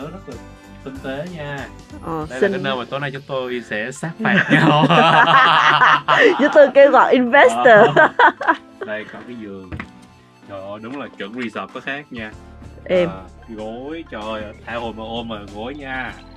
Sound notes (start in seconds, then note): 4.3 laughing